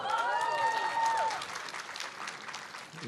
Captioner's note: applause